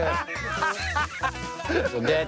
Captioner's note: laughter